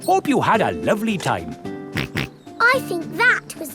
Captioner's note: snorts